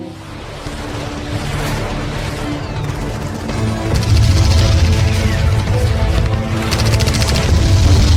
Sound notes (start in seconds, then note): 0.1 suspenseful music; 2.3 guns firing